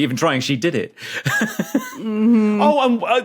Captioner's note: giggles